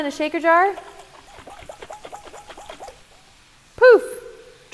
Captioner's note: dressing sloshing